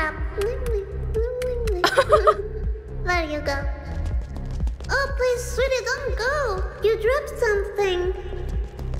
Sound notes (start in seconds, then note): 1.8 chuckles